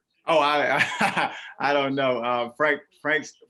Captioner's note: laughs